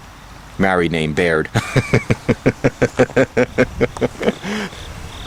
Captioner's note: laughing